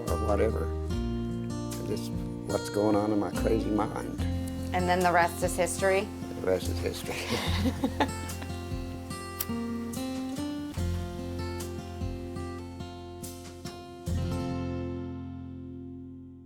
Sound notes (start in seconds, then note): 7.1 laughing